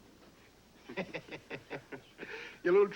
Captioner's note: chuckling